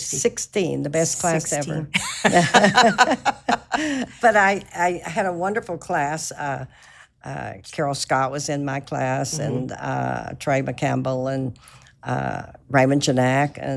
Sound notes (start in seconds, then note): 1.8 laughs